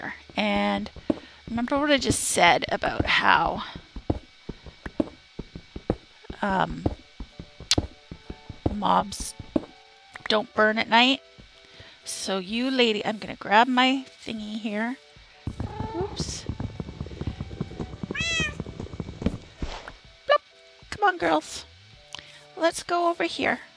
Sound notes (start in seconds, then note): 15.1 cats meow